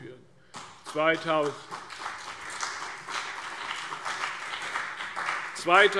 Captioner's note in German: Beifall CDU und BÜNDNIS 90/DIE GRÜNEN